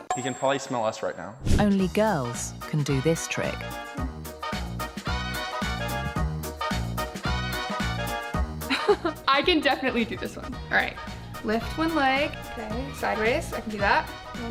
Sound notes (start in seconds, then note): 3.9 upbeat music; 8.7 laughs